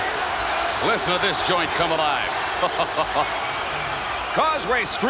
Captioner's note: chuckles